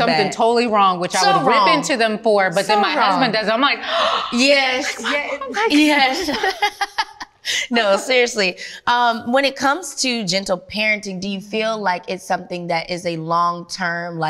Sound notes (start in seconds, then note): 3.8 gasps; 6.6 laughs